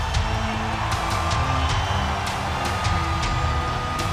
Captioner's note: crowd cheers